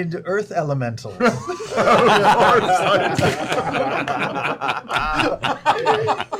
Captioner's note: laughter